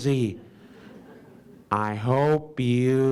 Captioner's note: audience laughs